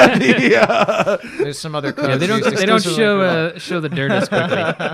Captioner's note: laughter